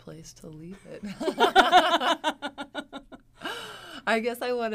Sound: both women laugh

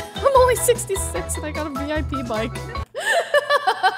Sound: laughing

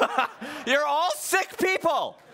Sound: laughing

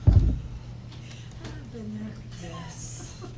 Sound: laughter

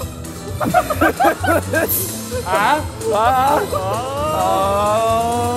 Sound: laughter

